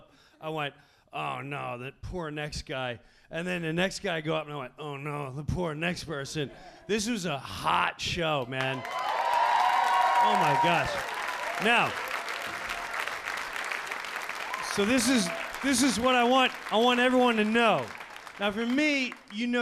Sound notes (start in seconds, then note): 8.9 audience cheering; 12.1 audience clapping